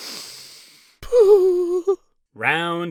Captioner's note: sharp inhale; mournful cooing